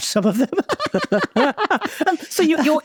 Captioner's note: both laughing